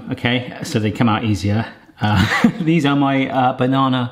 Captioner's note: laughs